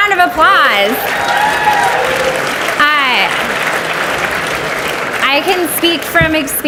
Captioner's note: audience cheers and applauds